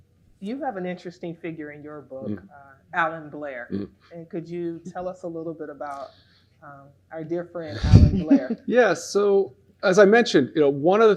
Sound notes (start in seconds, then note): 7.7 laughs